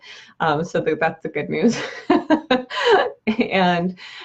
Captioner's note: laughs